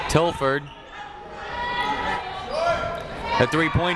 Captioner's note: people shouting in the crowd